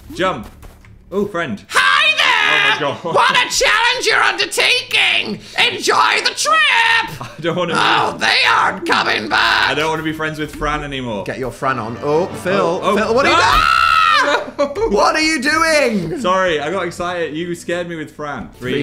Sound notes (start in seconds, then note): 1.7 screaming; 2.4 laughs; 6.4 laughs; 11.8 dramatic music; 13.2 screams; 15.9 laughs